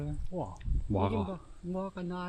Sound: mispronouncing “fig”

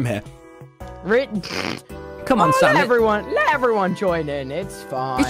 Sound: laughs

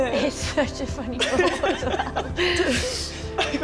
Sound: laughing

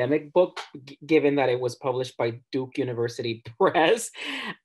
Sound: laughs

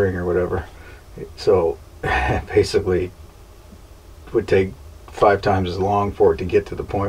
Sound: laughs

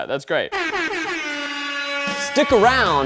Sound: horn alarms

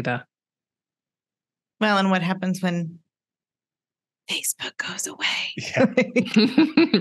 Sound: whispers: Facebook goes away?

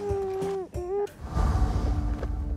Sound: toddler gabbing

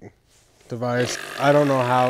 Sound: device buzzing

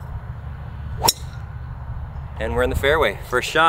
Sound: golf club pings

